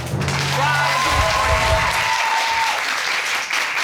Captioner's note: audience cheering